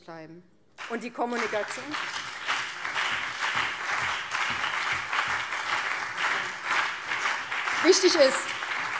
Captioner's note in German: Beifall BÜNDNIS 90/DIE GRÜNEN und vereinzelt CDU